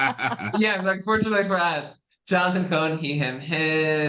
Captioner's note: laugh